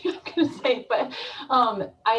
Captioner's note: laughs